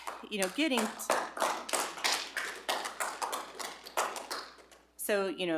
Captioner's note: audience clapping